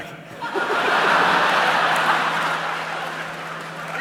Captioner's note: laughter